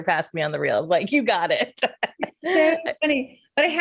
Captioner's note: laughs